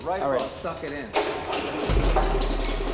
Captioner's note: engine turns over